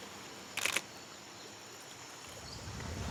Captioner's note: camera clicks